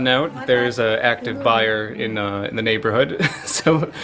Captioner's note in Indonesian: tertawa